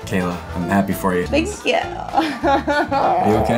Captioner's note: laughs